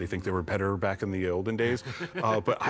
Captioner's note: laughs